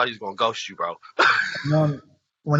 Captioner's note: laughs